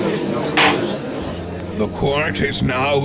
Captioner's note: gallery chattering; gavel slam!